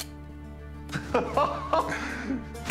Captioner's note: laughter